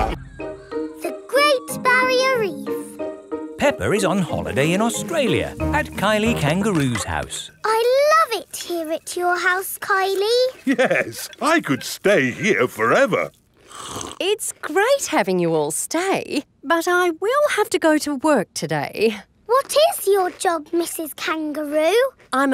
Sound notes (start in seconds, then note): 13.5 slurps